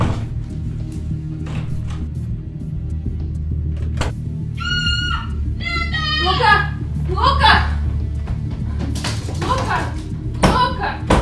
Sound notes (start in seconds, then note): 4.5 scream